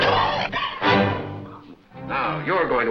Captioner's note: sizzling; coughing